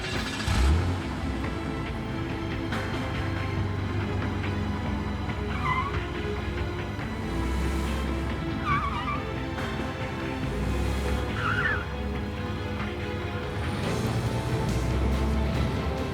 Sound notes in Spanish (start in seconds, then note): 0.1 Ruido al arrancar el auto; 8.2 Chirrido de las gomas